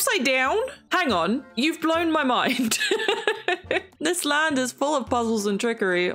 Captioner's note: laughs